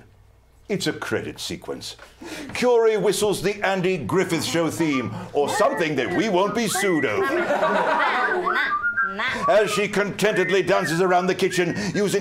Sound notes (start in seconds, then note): 8.2 whistling